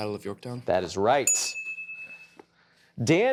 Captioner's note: chiming